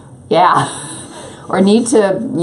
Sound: laughs

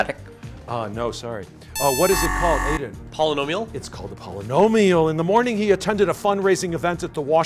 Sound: buzzer

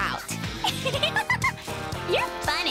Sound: laughs

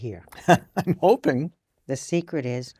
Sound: laugh

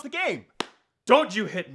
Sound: loud smack

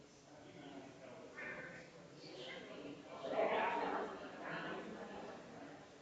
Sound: people chattering distantly continues

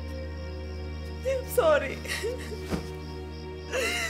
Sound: sobs

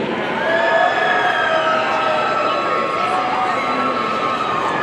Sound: audience cheering

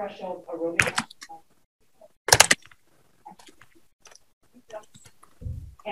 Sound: microphone crackling

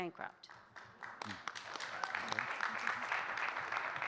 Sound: audience clapping

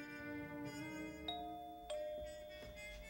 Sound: door bell

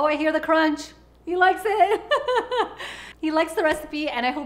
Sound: laughing

